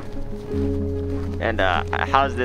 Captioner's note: footsteps crunch